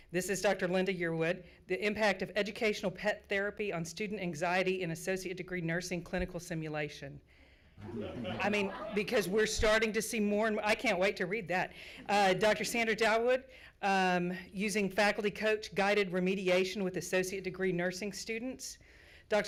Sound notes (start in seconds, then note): 7.8 crowd laughs